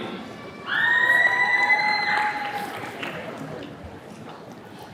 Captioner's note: attendees cheering